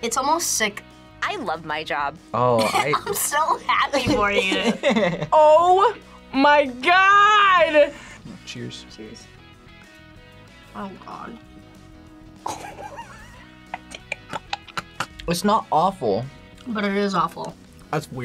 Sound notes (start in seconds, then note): 12.4 laughs; 12.4 gags